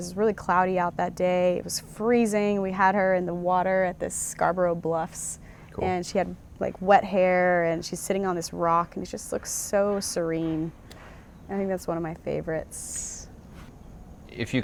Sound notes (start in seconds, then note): none